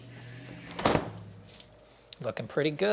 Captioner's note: doors shuts